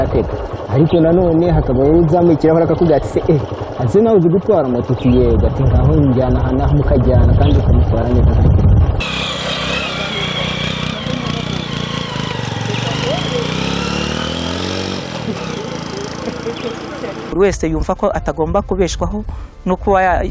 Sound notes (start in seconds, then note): 8.8 motorbike engine revving; 17.7 speaking in Kinyarwanda